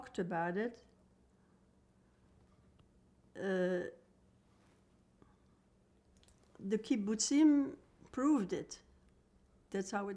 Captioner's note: pauses 6 seconds